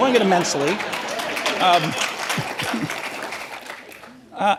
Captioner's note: applause